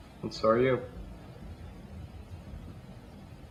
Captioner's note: none